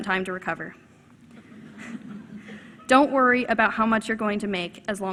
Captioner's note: laughter